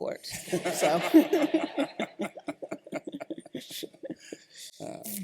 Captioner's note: laughter